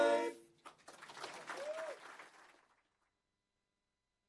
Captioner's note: applause